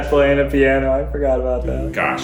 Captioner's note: laughing